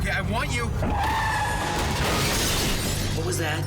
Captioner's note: tires screech, crash